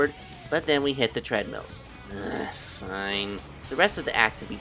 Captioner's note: sigh